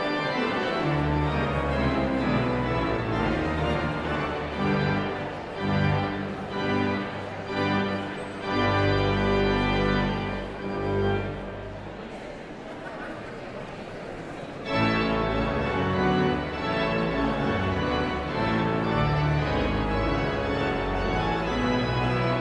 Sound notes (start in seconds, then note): 0.0 exhilarating organ music continues; 0.6 audience chattering continues; 12.0 audience chattering continues; 14.6 energetic organ music; 18.3 audience chattering continues